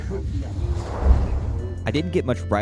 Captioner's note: whoosh